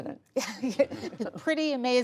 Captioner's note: laughter